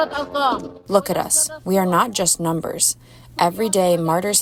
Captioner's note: through translator